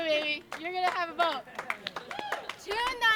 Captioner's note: applause